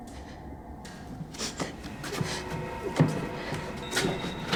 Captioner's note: Charlie whimpering